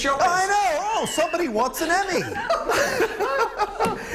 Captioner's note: laughter